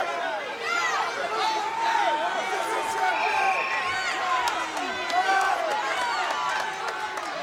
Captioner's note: crowd cheering; whistle tweeting